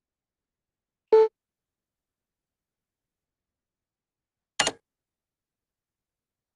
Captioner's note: click